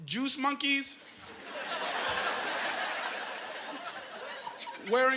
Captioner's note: laughing